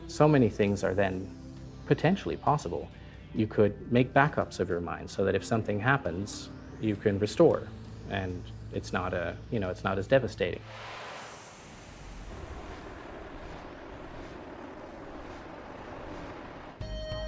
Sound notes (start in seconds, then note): 11.2 warping sound; 13.2 synth music